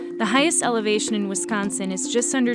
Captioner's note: none